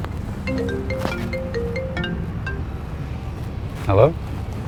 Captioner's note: phone rings